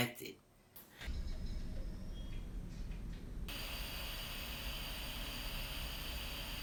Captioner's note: white noise